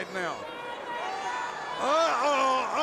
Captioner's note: crowd cheering